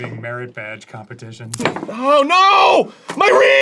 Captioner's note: reed snaps